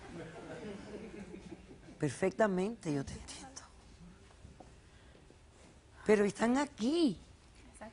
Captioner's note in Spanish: Risas